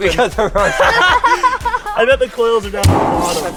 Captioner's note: laughter